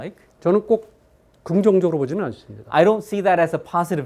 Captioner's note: speaking in Korean